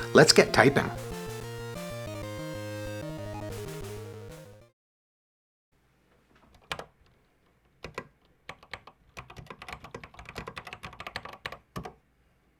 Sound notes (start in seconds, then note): 6.8 typing on a C64 keyboard